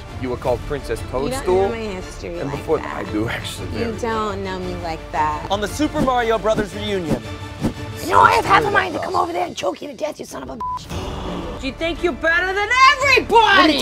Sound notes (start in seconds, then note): 10.6 beep; 10.7 gasping